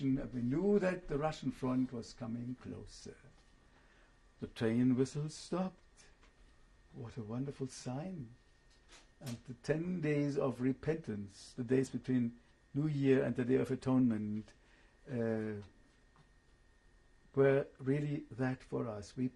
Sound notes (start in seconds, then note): 15.4 pauses for 3 seconds